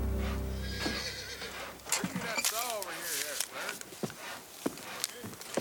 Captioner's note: people chattering outside